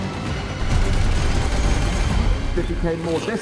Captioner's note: gunshots